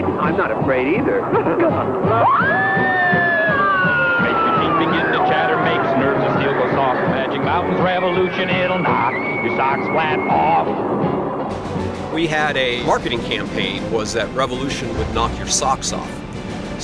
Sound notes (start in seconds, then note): 1.1 laughs; 2.1 screams